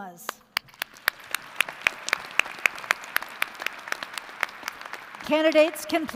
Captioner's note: applause